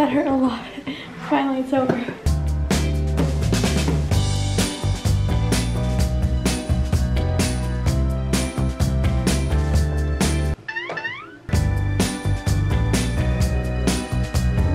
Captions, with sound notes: - That hurt a lot, finally, it's over. (upbeat music) (spring boings)